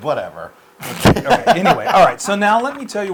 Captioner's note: laugh